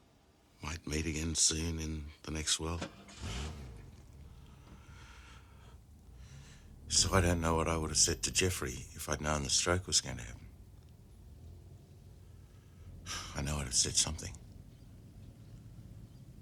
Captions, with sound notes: MIGHT MEET AGAIN SOON, IN THE NEXT WORLD? [Car engine starts] SO, I DON'T KNOW WHAT I WOULD HAVE SAID TO JEFFREY IF I'D KNOWN THE STROKE WAS GOING TO HAPPEN. I KNOW I WOULD HAVE SAID SOMETHING.